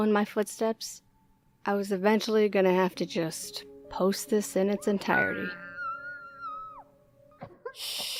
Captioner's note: muffled screaming